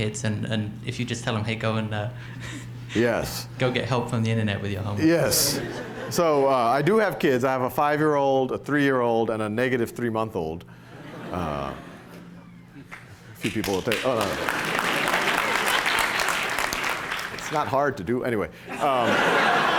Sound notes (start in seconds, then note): 10.9 laughter; 13.4 applause; 18.7 laughter